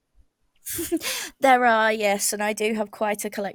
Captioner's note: laughs